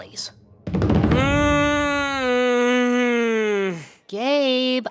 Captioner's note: gabe moans